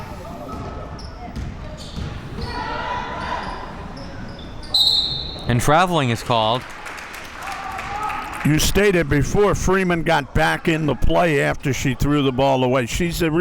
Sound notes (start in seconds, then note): 4.6 whistle blows